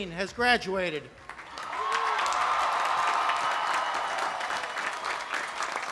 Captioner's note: cheering and applauding